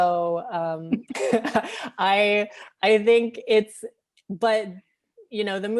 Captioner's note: laughing